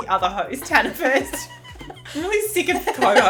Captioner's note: laughing